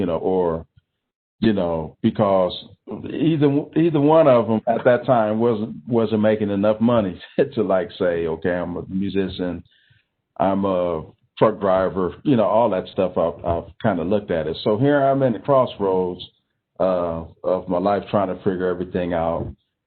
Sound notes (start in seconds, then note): 7.1 giggling